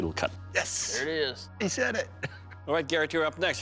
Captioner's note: chuckles